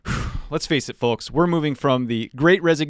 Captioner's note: sigh